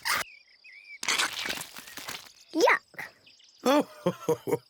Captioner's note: laughs